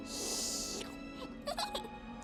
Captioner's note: laughing